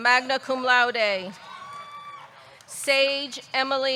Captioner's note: audience cheering